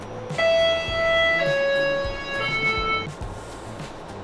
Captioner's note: door chimes